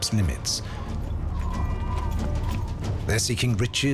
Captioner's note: wind whistling